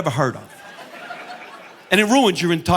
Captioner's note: audience laughing